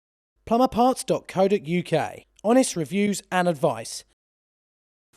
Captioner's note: voiceover